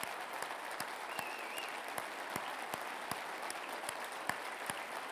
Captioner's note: whistling